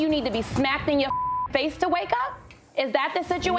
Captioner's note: beep